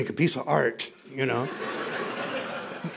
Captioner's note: laughter